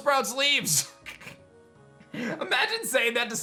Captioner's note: giggles